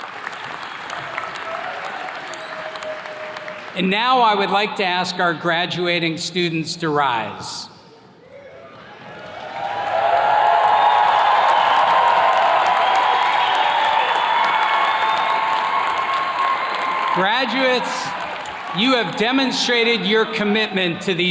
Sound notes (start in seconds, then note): 0.0 attendees clapping; 7.8 attendees cheers and claps